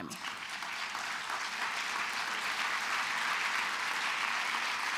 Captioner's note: applause